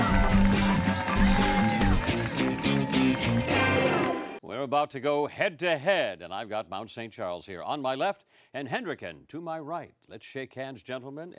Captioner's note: cheering and applause